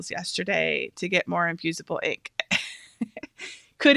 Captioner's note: laughs